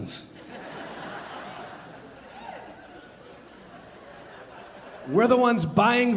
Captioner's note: audience laughing and cheering